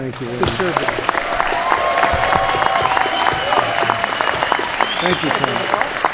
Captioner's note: applause